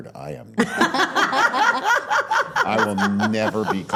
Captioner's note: laughing